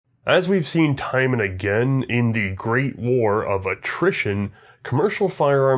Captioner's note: voiceover